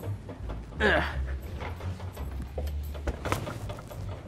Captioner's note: grunts